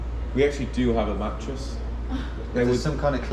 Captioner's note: receptionist chuckles